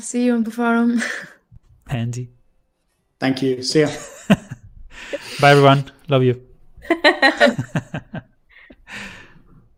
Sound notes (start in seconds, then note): 3.8 laughs; 6.8 laughter